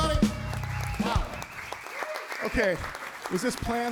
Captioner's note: audience applauds and cheers